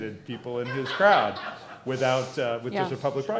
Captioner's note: laughter